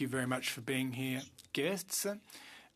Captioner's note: speaking French